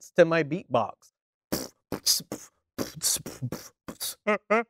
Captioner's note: beatboxing